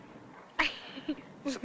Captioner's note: laugh